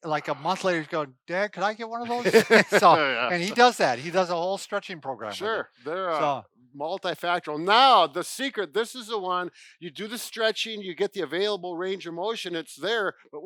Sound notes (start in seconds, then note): 2.0 laughing